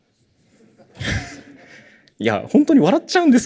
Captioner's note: laughter